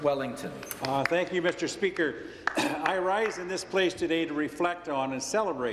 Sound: applause

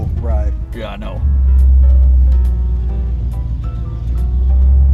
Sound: engine purrs

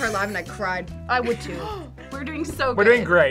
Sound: React gasps

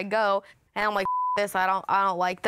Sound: beep

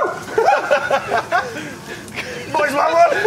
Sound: laughter

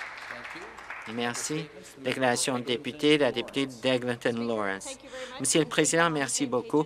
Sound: some Applause

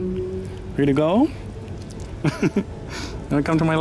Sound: laughter

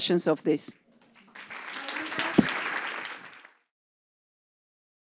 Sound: applause

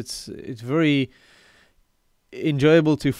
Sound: breaths in

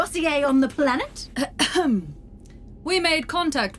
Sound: Sim clears her throat

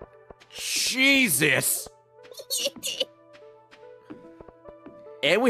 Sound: giggling

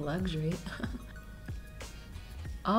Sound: chuckles

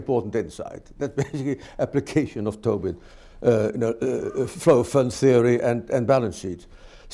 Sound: laughs

